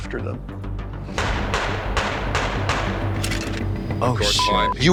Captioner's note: gunshots fire